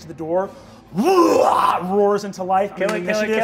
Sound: roars

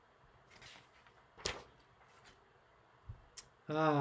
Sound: paper rustles

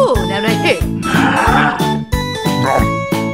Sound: mad mysterio noises

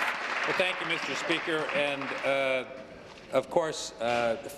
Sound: applause

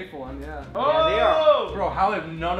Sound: member cheering

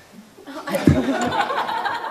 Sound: laughter

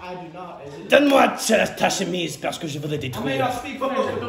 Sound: french gibberish

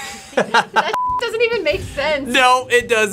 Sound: laughing; beep

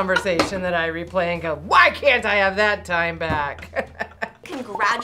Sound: laughs

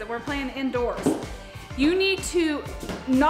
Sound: none

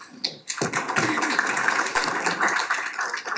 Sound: applause

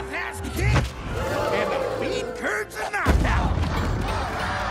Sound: all exclaiming; cheering

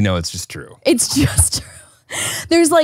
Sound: laughs

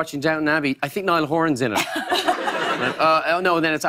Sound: laughter

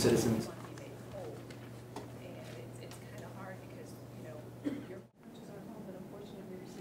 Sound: people talking at meeting

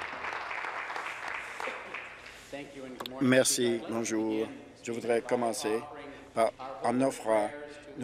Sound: applause

